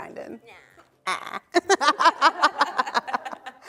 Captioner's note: laughing